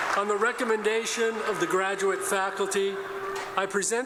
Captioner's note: applause